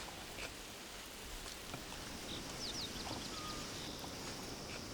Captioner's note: birds chirping